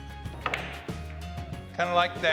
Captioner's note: balls click